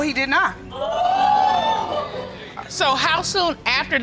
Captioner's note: audience exclaims